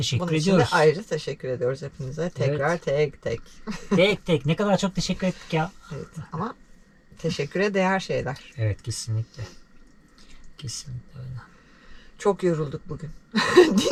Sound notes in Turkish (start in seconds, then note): 9.7 homurdanır; 13.3 kahkaha